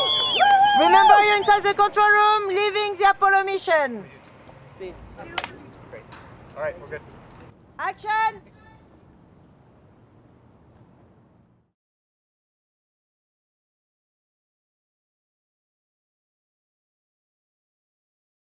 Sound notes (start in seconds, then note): 0.0 cheering; 5.3 clapboard clacks